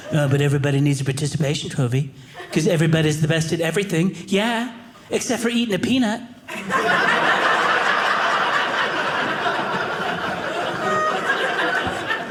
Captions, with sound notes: But everybody needs a participation trophy because everybody is the best at everything. Yeah, except for eating a peanut. (audience laughing)